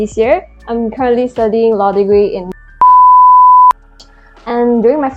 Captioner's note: beep